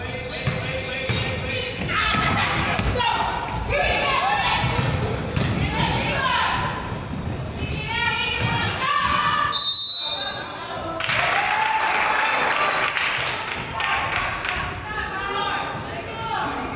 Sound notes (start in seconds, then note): 9.4 whistle blows; 11.0 crowd applauds